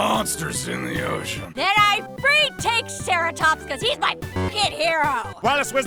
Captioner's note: slurred